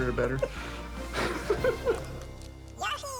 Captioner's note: laughing